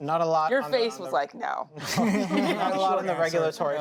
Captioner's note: laughter